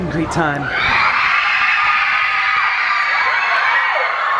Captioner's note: screams and cheers